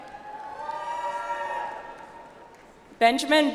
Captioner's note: audience applauds